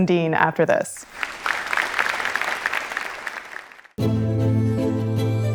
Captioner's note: audience applauding; slow relaxing music